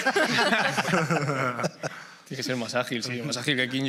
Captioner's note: laughter